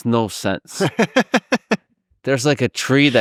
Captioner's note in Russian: смеётся